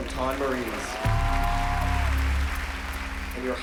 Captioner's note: cheers and applause